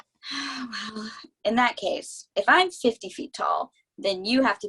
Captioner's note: sighs